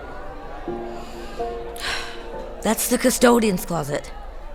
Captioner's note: inhales, then exhales